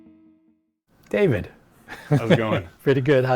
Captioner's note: laughs